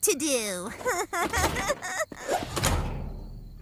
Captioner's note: laughs weakly